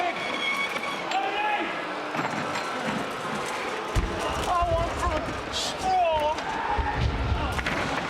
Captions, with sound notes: (crowd boos) Got one for Strong.